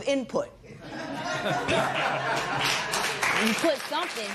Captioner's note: laughter and applause